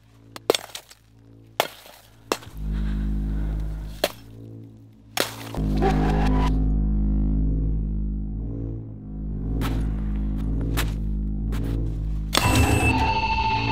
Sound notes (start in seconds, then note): 2.4 breathing; 12.2 buzzing!!